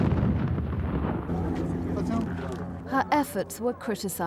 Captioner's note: landmine exploding